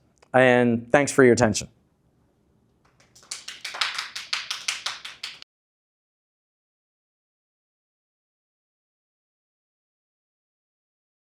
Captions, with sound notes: And thanks for your attention. [APPLAUSE]